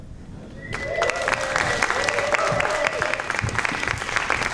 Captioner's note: audience applauding